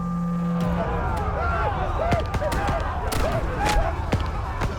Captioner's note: indistinct shouting